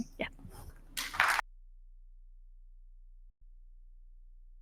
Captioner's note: crowd clapping